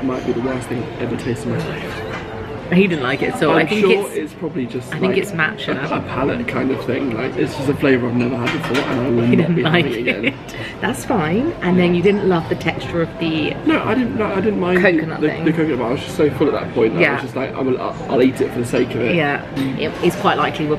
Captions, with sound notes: might be the worst thing ever tasted in my life. - He didn't like it so I think it's- - I'm sure it's probably just- - I think it's matcha. - It's probably just a palate kind of thing. Like, it's just a flavour I've never had before and I would not be having again. - He didn't like it. (laughs) That's fine. And then you didn't love the texture of the- - No, I didn't mind - Coconut thing. - The coconut, but I was just so full at that point. - Yeah. - I was just like, I'll eat it for the sake of it. - Yeah, it's quite likely